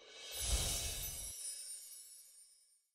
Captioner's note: shimmering sound